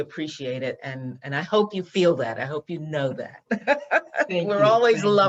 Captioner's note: laughs